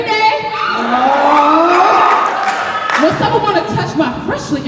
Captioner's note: cheering and snapping